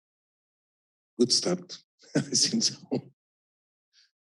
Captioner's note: chuckles